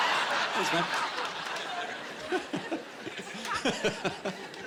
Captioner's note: chuckling